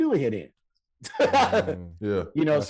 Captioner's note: Rel laughing